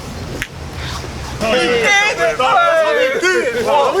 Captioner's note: boys are cheering